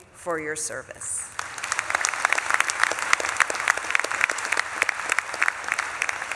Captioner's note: audience claps and cheers